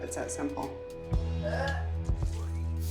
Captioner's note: retching